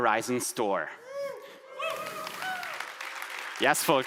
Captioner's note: audience applauding